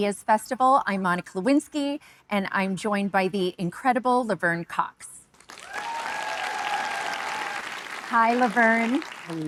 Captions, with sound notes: I'm Monica Lewinsky, and I'm joined by the incredible Laverne Cox. (audience cheering) Hi, Laverne. - Hello, Monica.